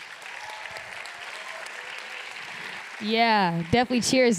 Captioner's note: applause